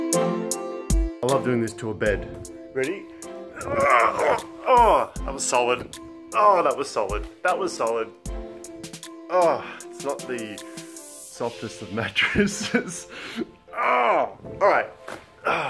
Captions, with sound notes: I love doing this to a bed. Ready? That was solid. That was solid, that was solid. It's not the softest of mattresses. (laughs)